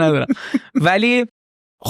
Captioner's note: laughs